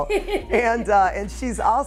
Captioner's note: laughs